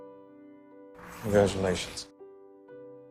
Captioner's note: voiceover